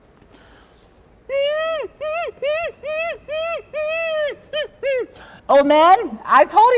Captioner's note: monkey noise